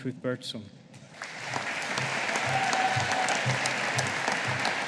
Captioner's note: audience applauding